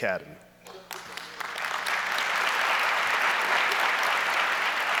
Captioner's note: audience applauds